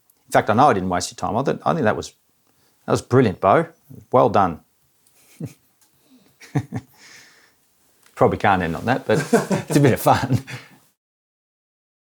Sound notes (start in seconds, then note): 6.3 chuckles